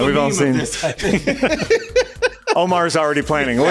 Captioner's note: laughs cause he's seen them before